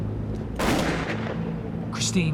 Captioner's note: tense music; gunshot bangs